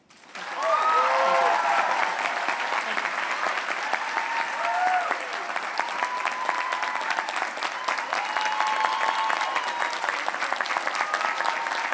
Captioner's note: applause